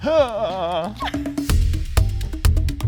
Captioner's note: upbeat music; both chuckle